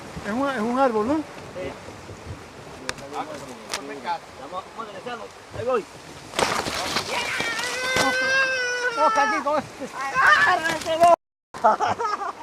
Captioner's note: laughs, screams